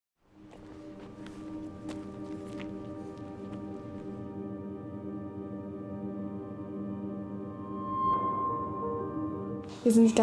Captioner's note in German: Schritte und Musik im Hintergrund, Originalton beginnt